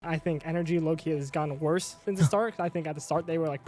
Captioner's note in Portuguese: risos